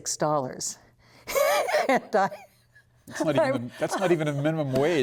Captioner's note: laughter